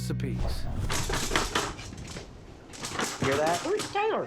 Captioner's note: rustling sounds offscreen